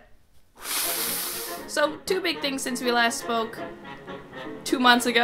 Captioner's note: blows nose